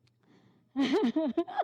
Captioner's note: laugh